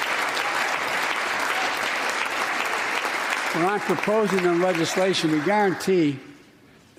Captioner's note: applause